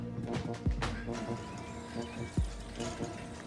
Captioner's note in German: Vogelgezwitscher